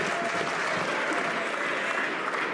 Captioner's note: some Applause